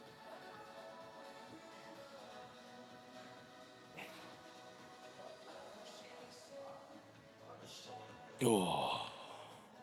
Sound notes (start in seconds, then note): 1.2 soft music; 1.5 grunting